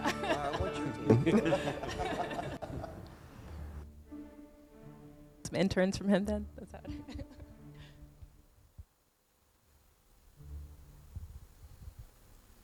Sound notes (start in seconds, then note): 0.0 everyone laughing; 6.8 laughing